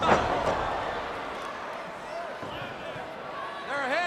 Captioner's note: crowd cheering